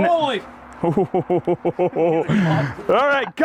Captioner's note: laughs